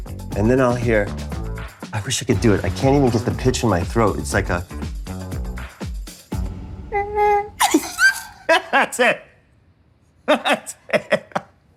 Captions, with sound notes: And then I'll hear... I wish I could do it. I can't even get the pitch in my throat. It's like a... (MIMICS BELLA'S LAUGH) -(LAUGHS) -That's it! (LAUGHING) That's it.